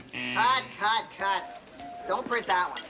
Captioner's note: buzzer